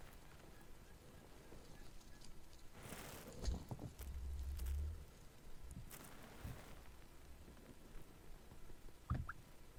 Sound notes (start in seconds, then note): 5.8 thumps echo